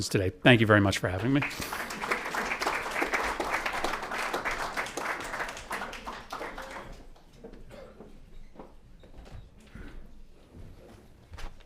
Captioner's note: applause